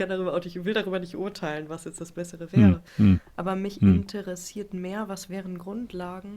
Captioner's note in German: räuspern